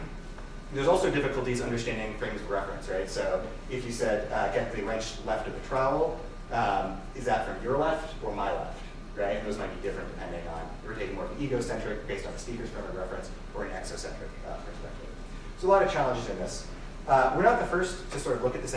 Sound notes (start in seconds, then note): none